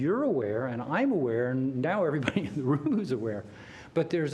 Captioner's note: laughter